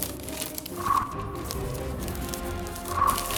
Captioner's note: wrapper easily ripping out